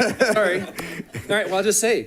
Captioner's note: attendees laughing